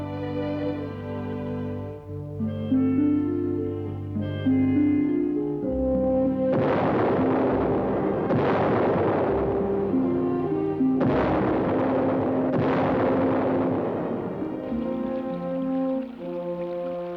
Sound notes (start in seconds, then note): 5.2 cannon firing; 14.6 cannon fire stops